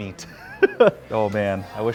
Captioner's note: laughing